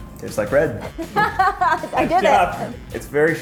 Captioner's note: laughing